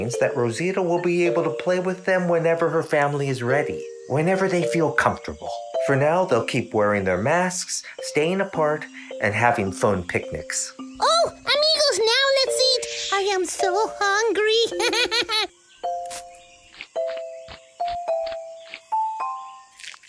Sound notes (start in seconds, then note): 14.6 laughs; 16.0 pump squirts; 16.2 gentle music